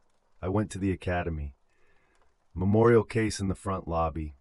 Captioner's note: exhale